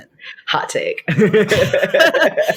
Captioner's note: all laugh